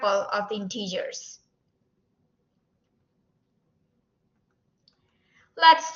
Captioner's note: silence